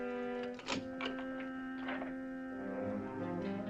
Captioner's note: lock clicking